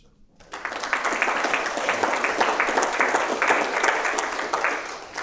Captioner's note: people clapping